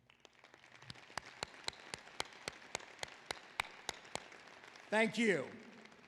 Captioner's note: applause